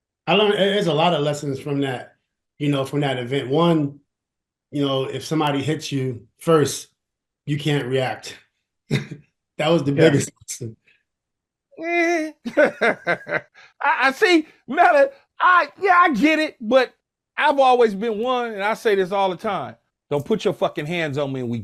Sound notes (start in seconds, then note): 8.6 chuckles; 11.8 laughs